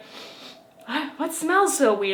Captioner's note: sniffs